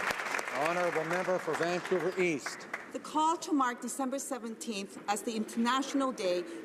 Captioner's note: applause